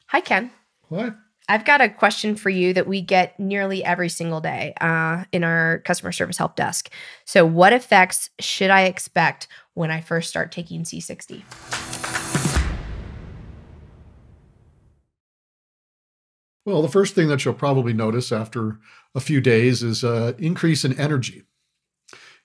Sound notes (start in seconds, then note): 11.4 logo whooshing